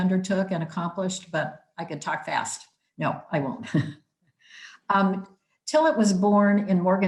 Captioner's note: giggling